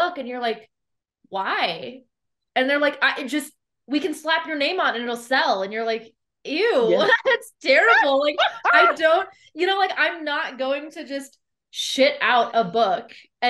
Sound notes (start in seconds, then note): 7.7 laughs